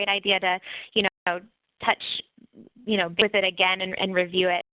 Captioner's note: audio skips